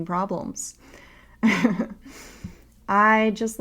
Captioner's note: laughs